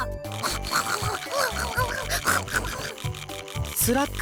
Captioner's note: scarfing